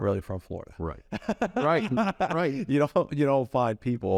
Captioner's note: laughs